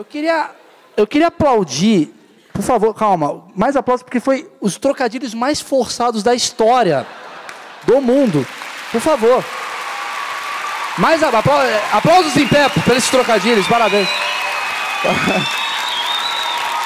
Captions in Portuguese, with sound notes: Eu queria aplaudir... Por favor, calma... Foram os trocadilhos mais forçados da história. Do mundo! Por favor! [aplausos] Aplausos em pé por esses trocadilhos, parabéns!